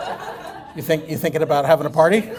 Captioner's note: laughter